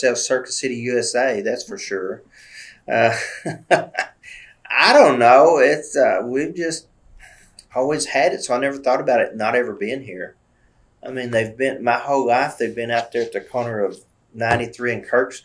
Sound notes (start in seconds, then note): 2.9 laughs